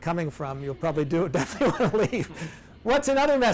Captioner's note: laughs